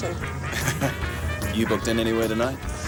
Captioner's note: Graham chuckles